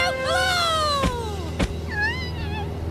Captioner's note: whimpering